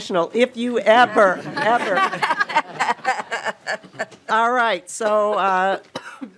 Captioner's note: laughing